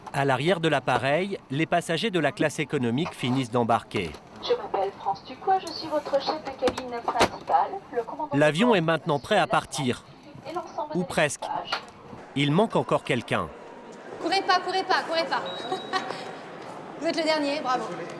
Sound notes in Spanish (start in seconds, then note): 4.4 cabina se cierra; 4.4 intercomunicador asistente de vuelo